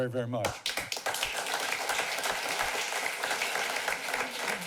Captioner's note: applause